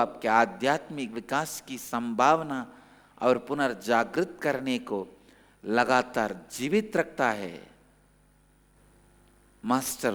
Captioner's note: hindi